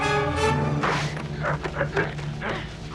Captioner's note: sword slices; both grunting